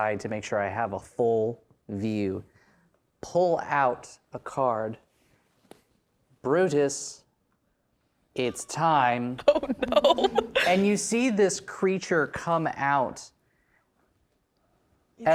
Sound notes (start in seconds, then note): 9.4 laughing